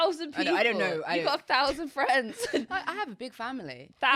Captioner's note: both laughing